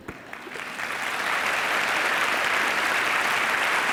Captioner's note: audience applause